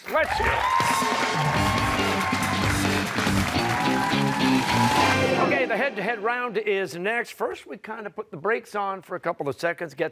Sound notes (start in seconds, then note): 1.6 cheers and applause